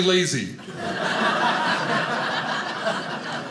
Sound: audience laughing

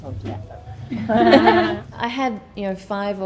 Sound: laughing

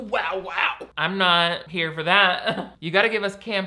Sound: chuckles

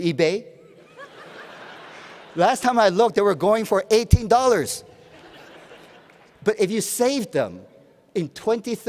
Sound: laughter

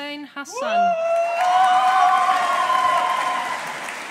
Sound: audience applauding

